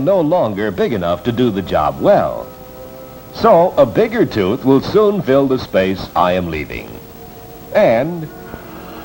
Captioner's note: yawns